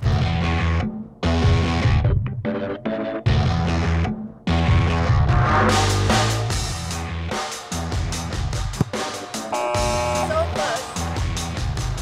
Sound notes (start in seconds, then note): 0.2 rock music; 9.6 buzz